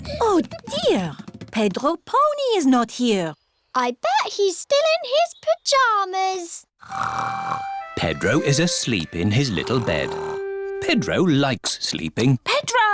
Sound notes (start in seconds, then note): 6.8 snores